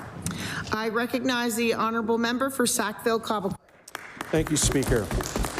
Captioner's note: applause